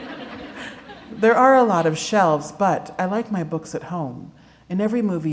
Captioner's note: laughter